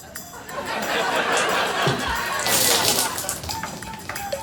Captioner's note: audience laughing